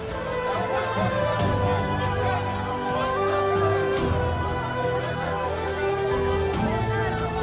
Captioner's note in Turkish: Kalabalık konuşma sesleri